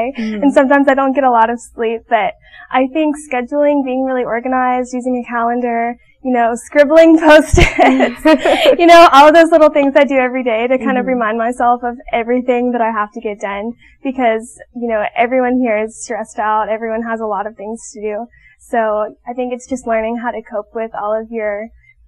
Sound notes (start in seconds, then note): 7.6 laughing